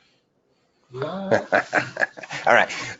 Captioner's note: person laughing